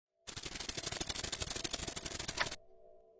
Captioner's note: rustling